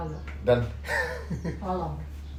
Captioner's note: ketawa